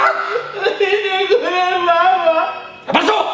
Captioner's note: crying